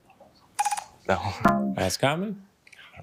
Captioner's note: bell dongs